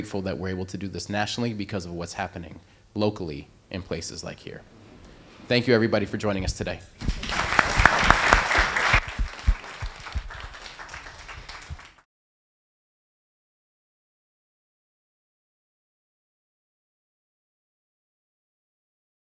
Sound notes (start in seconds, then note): 7.0 applause